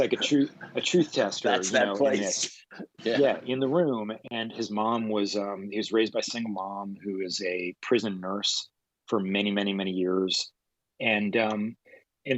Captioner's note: laughter